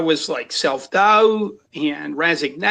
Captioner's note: none